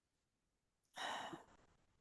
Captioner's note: sighs